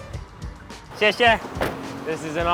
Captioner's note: speaking foreign language